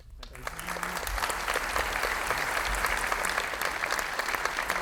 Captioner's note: audience applauding